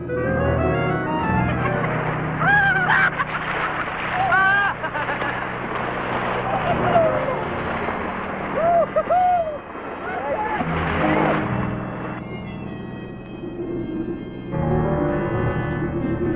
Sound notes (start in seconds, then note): 0.3 all laughing; 4.5 all cheering; 10.8 suspensful music playing